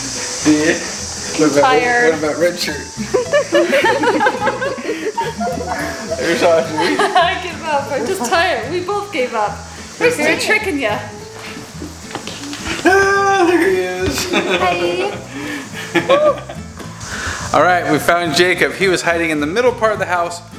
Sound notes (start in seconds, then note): 3.0 laughter; 15.5 laughter